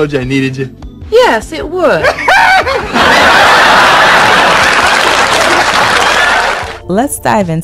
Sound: laughs out loud

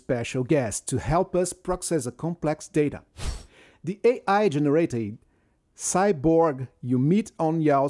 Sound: screen whooshes

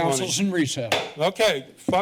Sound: bangs the gavel

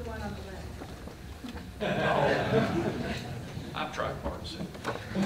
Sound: laughter; laugher

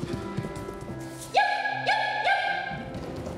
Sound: pitter patter; yipping

